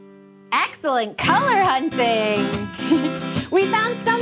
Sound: chuckles

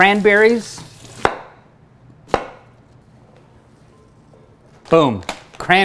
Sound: chopping sounds

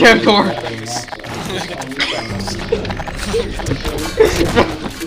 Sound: slight laugh

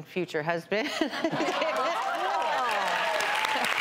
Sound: laughs; applause

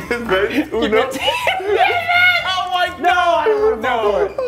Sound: laugh

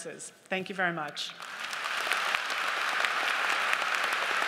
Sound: audience applause

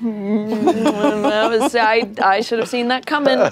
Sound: laughter

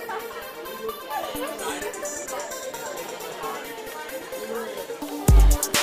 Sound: people chattering; woman laughing

